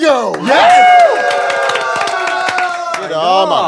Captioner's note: sound of cheering